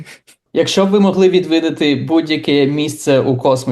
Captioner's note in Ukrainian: сміється